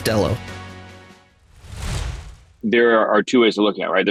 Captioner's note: air swooshing